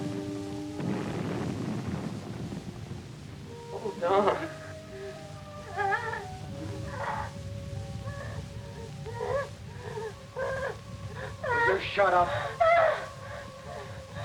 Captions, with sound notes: - Oh, Don. (Katie sobbing) - Will you shut up?